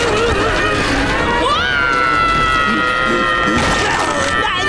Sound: screaming

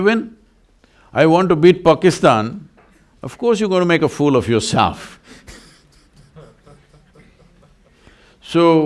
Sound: laughs

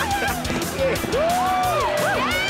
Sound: cheering

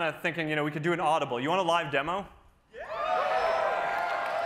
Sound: cheering

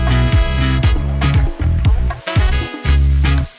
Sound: none

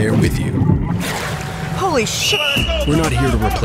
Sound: whistle

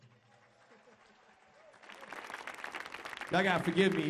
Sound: audience applauding; audience cheering

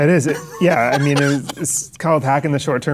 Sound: Chase laughs

